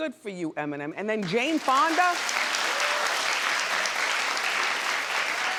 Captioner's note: audience applauds